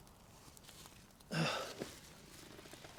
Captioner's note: sighs